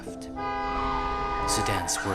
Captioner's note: honk